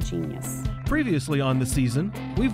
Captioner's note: voiceover